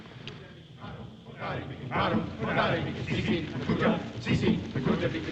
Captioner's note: chanting